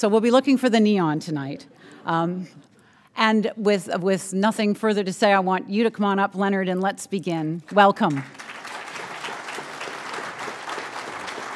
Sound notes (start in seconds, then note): 2.1 laughter; 10.0 applause